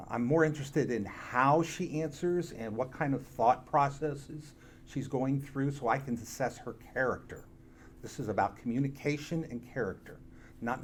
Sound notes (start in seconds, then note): none